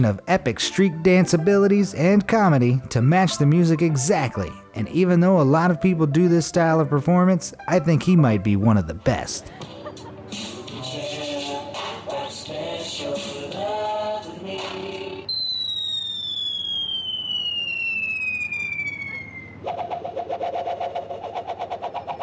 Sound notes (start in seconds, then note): 15.3 falling sound effect; 19.9 whipping